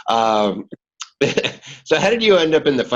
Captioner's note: laughing